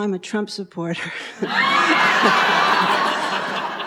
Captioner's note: audience laughs